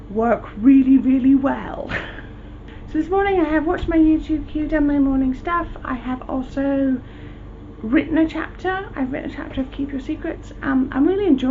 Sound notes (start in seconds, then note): 1.9 laughs